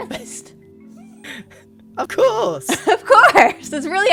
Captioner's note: laughs